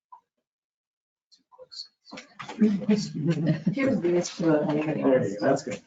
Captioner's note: woman chuckles